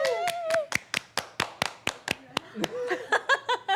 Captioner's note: laughs